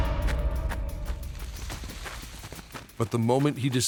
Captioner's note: rustling